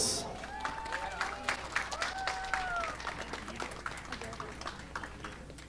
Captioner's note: audience applauding